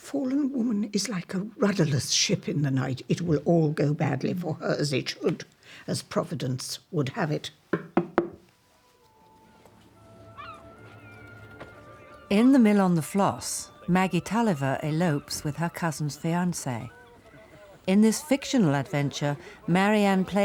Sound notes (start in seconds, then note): 7.7 forcefully tapping cards